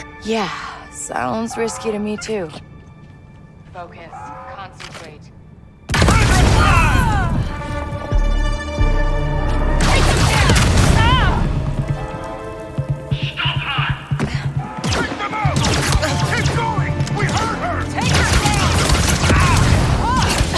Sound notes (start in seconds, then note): 6.1 explosion booms; 6.1 people shouting; 15.4 people shouting; 15.4 weapons zinging